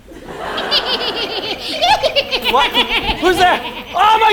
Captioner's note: cackling